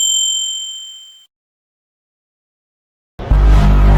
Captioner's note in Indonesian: lonceng